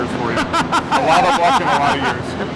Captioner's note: laughs